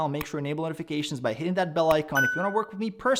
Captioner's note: dinging